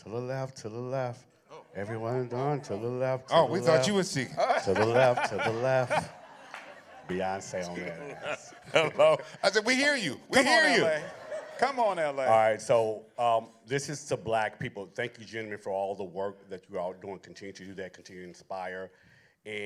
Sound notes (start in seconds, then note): 4.2 laughter